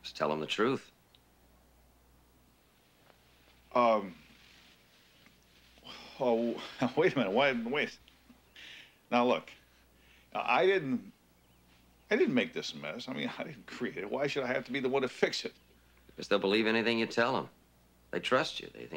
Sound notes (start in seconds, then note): 5.8 sighs